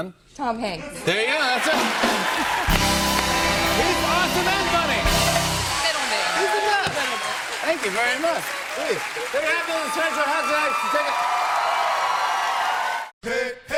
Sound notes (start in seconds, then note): 1.7 cheers and applause